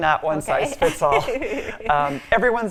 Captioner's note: laughing